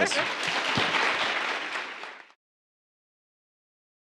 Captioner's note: audience applauds